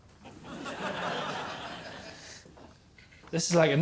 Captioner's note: laughter